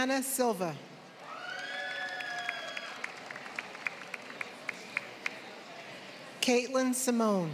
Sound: applause

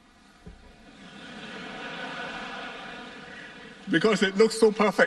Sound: laughter

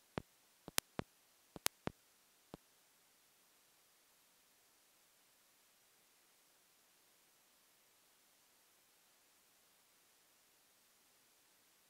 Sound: no audio due to technical difficulties

